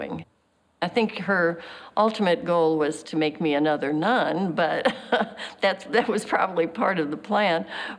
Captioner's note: chuckles